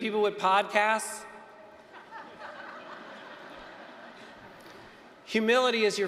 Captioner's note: laughter